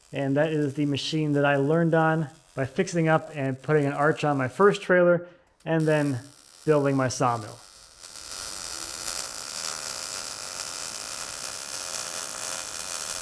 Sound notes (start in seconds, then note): 8.0 welder buzzing